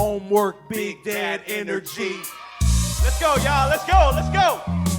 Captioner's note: audience cheering